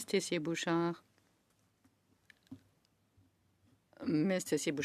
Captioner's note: speaking French